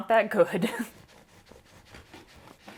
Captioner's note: slicing sounds